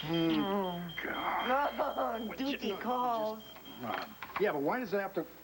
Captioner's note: ■a■e beeps